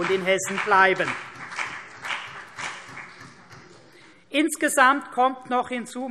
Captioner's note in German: Beifall CDU und BÜNDNIS 90/DIE GRÜNEN